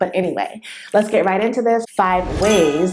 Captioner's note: bell sound